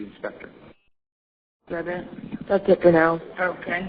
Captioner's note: audio break 00:10:18